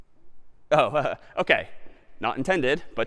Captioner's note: laughs